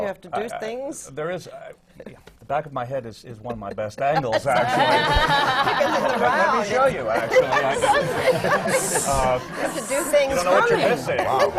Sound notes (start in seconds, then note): 4.0 laughter